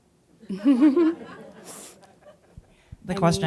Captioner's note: laughing; audience laughing